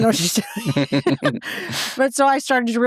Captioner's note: both laughing